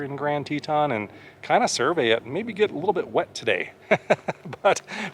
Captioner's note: laughs